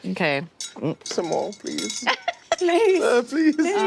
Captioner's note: jingling shine tokens